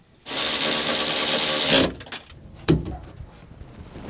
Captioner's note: drill buzzing